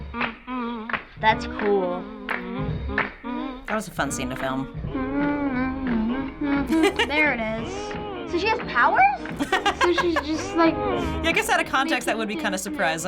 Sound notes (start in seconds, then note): 5.1 humming along